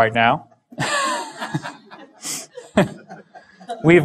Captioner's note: chuckle